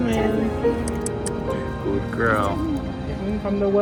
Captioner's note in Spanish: Clics de lengua